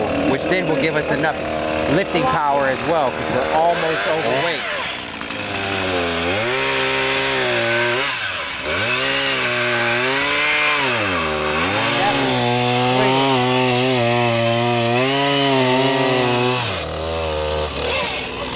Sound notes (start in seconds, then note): 6.1 chainsaw revs